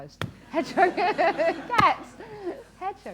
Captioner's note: laughter